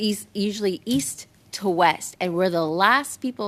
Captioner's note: speaking french